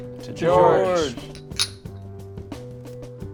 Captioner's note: glasses clink